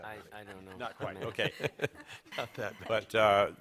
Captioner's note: laughter